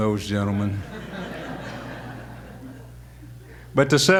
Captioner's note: audience laughter